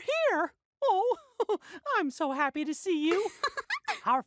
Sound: laughs

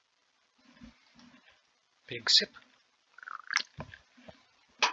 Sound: slurps

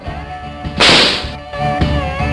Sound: whap

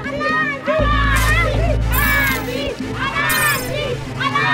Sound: electricity snapping

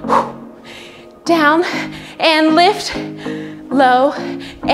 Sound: exhales

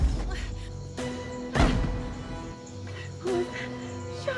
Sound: gunshot

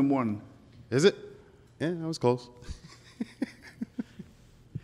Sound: chuckles

